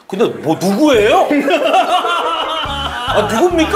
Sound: hahahaha

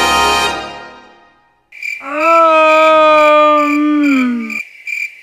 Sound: crickets and chilling silence

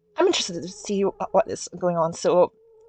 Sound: none

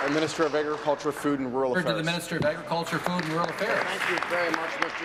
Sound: applause

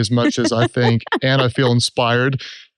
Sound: laughs

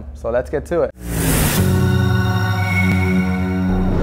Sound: chiming

